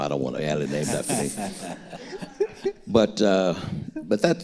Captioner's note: all laughing